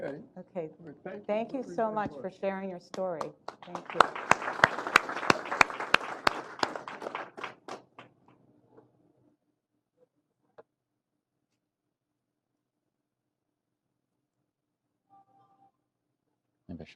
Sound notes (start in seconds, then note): 4.8 applause